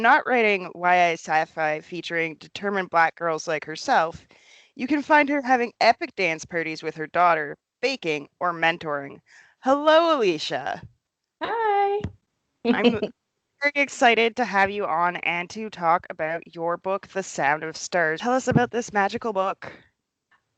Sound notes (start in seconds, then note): 10.4 soft laugh